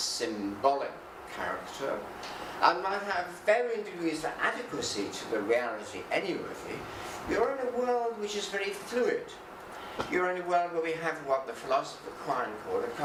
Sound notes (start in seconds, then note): none